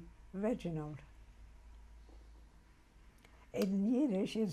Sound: pauses for 3 seconds

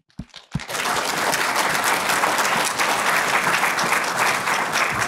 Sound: applause

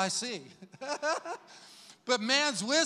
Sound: laughs happily

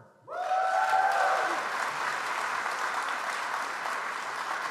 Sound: audience applauds

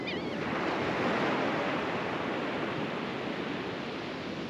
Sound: laughing Gulls screeching

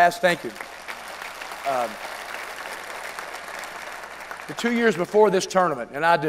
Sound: applause

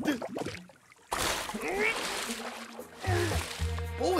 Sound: Bomb grunts

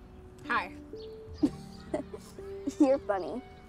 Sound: they laugh. so cute

